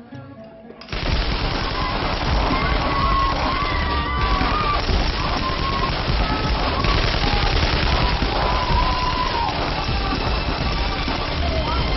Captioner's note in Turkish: Silah sesi gelir